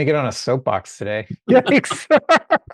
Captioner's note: both laughing